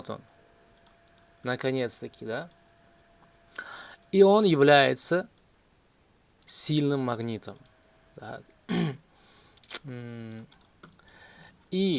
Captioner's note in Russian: откашливается